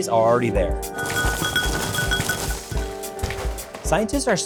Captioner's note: glass clinking